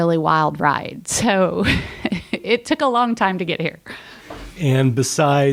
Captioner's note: chuckle